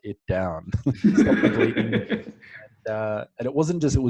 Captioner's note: both laugh